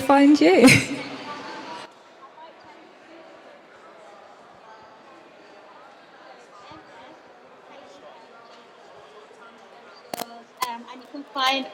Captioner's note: sound cuts